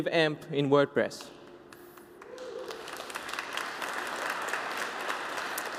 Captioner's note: applause